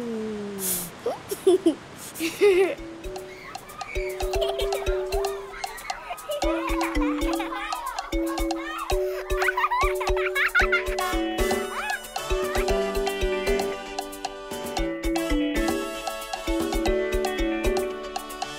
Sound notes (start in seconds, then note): 1.0 giggling; 4.7 children giggling; 10.2 upbeat lively music